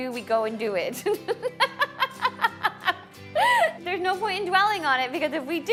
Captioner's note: laughs